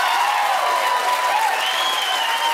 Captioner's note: cheers and applause